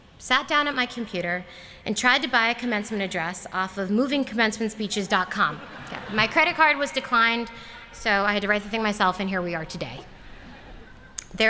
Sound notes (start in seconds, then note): 5.4 laughter